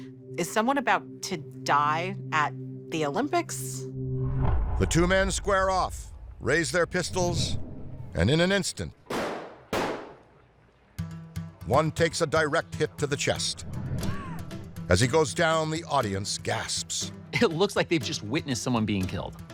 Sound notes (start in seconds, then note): 9.0 guns firing